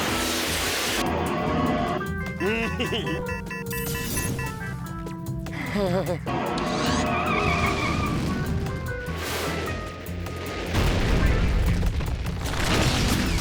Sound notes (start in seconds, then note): 2.4 giggles; 2.4 alert beeping; 5.5 nervous chuckle; 6.6 screeching noise